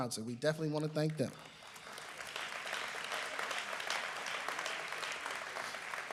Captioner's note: applause